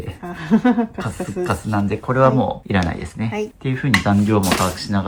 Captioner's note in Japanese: 笑い